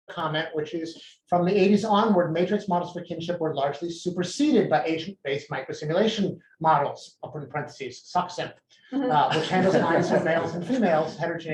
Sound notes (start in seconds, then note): 9.2 laughter